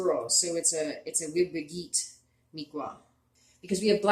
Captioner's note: speaking Abenaki